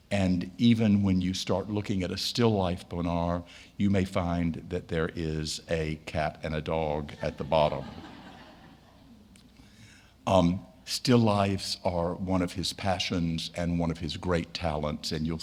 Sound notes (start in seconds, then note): 7.1 audience laughing